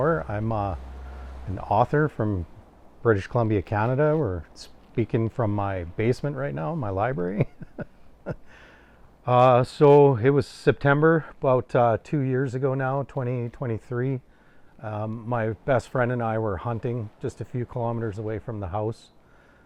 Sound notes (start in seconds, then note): 7.1 chuckles